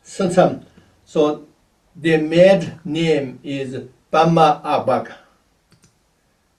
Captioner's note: tibetan; tibetan